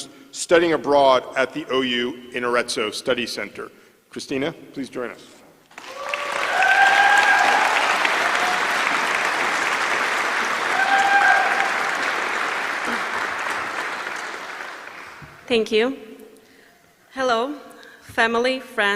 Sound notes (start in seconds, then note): 5.7 applause